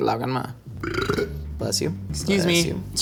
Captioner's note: burps